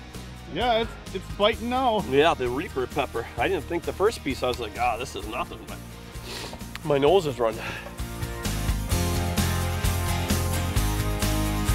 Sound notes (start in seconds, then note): 6.0 sniffs